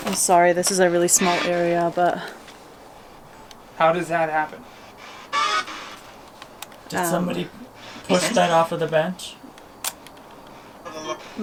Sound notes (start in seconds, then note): 6.1 spirit box crackles